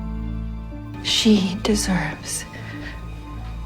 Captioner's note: voiceover